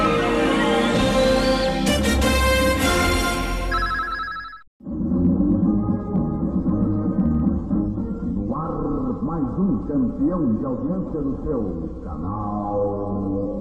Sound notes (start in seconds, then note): 8.3 male announcer speaking Portuguese